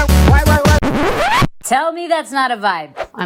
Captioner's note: record scratch